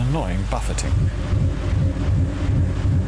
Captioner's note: low whirring